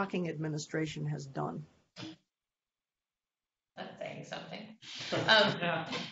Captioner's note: laughter